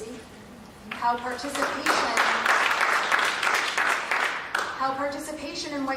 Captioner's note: applause